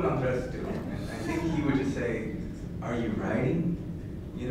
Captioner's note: laughter